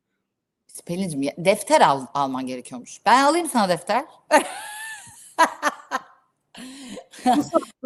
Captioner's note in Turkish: kahkaha